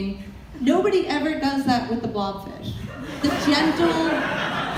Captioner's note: audience laughter